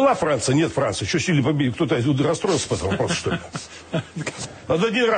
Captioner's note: laughter